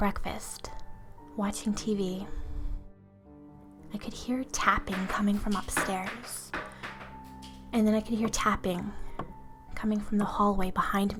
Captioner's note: tapping noises